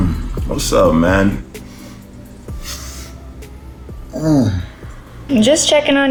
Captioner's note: grunts